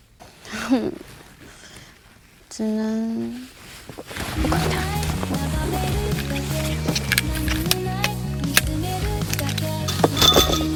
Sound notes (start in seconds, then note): 0.4 sigh